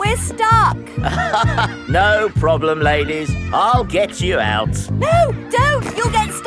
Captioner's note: chuckles